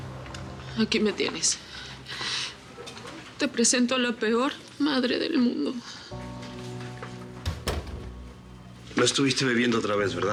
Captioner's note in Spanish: sollozos